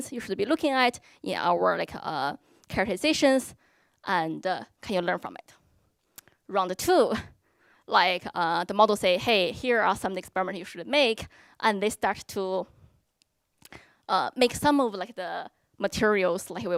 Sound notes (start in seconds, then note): none